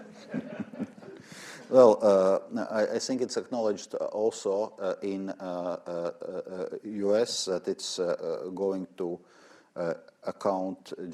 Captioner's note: laughter; laughs